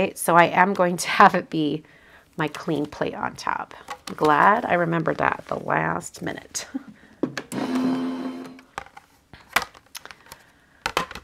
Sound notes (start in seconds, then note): 7.5 machine whirring